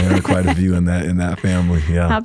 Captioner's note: laughs